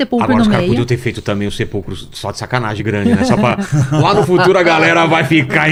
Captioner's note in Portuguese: risadas